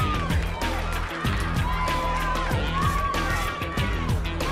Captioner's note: crowd cheering